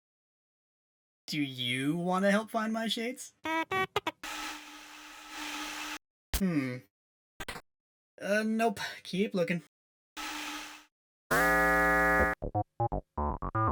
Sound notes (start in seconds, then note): 11.3 alarming noise